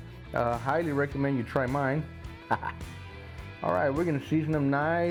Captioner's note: laughs